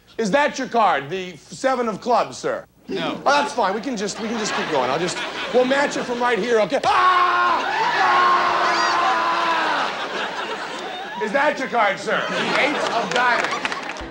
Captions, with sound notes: Is that your card? The seven of clubs, sir? -No. -That's fine. We can just keep going. We'll match it from right here. Okay. [screams] [laughter] Is that your card, sir? Eights of diamond.